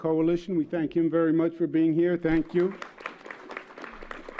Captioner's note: applause